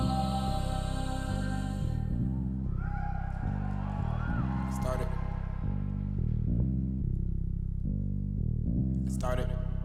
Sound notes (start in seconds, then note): 4.4 audience cheering